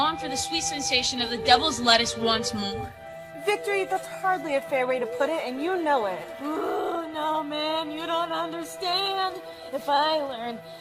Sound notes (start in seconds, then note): 6.3 groans